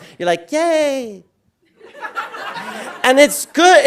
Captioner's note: audience laughing